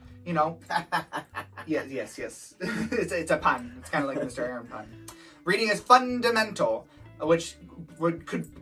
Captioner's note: laughs